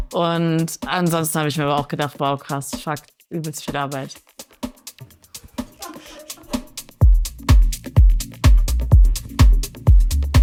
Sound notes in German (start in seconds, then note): 5.5 Lachen